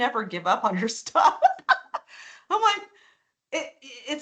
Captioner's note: laughing